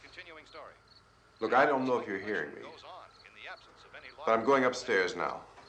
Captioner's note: man on radio continues